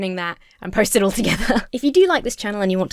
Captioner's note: laughs